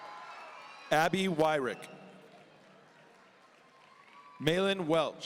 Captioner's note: audience cheering; audience cheering